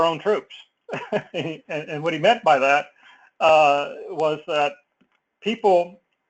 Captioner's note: laugh